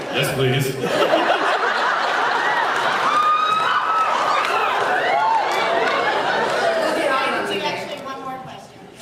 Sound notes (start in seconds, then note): 0.8 laughs, cheers